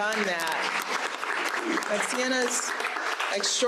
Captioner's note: audience applauding